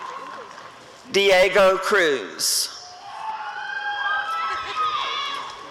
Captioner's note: applause and cheering